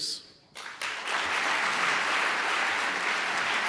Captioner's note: applause